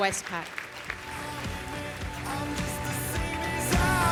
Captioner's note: applause